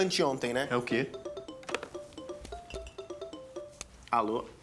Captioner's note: phone ringing